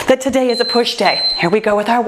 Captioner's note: timer beeps